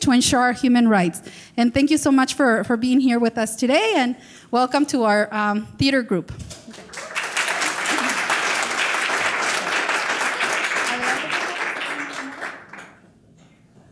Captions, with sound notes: to ensure our human rights, and thank you so much for being here with us today, and welcome to our theater group. (audience applause)